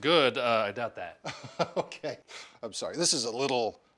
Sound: chuckles

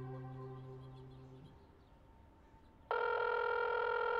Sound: birds chirping; phone ringing

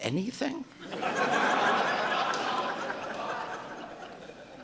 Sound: audience laughing

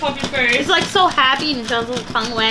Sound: laughing

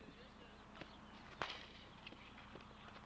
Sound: bat cracking

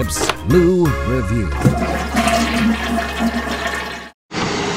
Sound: loo flushes

